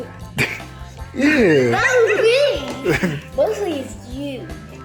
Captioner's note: baby giggles